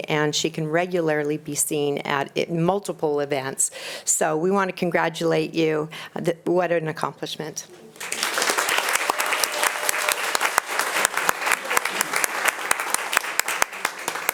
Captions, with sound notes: and she can regularly be seen at multiple events. So we wanna congratulate you. What an accomplishment. (audience applauding)